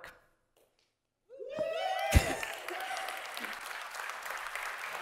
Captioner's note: audience cheering